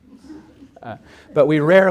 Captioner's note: audience laughs